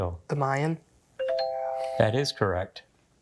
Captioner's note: text chimes